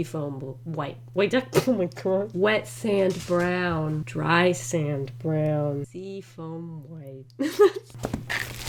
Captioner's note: laughs